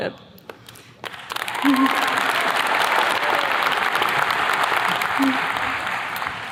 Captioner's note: attendees clapping; chuckles